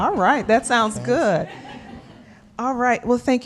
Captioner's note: laughter